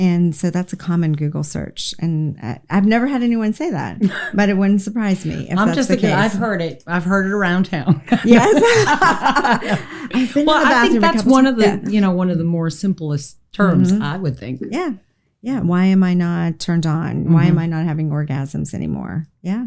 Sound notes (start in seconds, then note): 8.0 both laughing